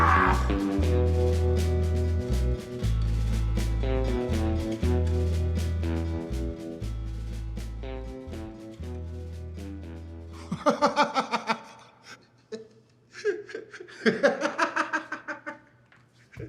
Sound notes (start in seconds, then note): 1.0 dramatic music; 10.8 laughing